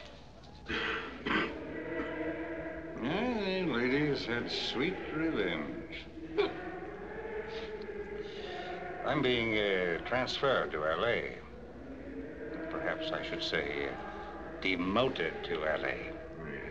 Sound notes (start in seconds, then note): 0.6 coughing; 3.1 choir Singing; 5.7 hiccups; 8.2 singing Continues